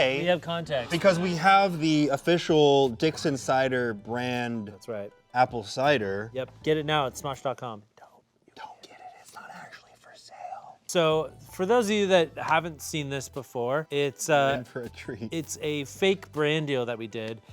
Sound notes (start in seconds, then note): none